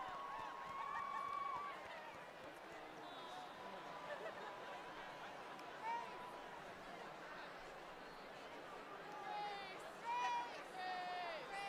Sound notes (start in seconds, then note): 1.5 cheers